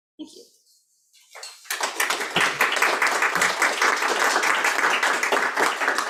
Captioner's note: audience applauding